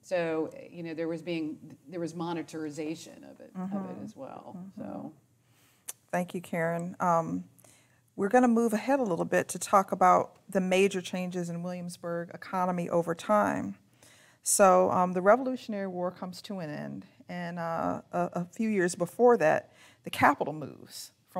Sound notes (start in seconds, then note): none